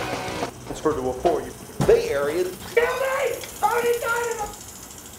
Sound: TV channels changing

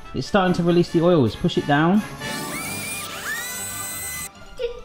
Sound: fast-paced whirring

